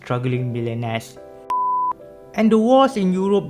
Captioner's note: beep